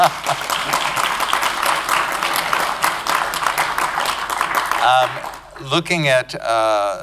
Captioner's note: applause